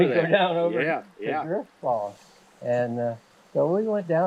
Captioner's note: distorted by laughter